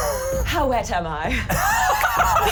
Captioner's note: laughing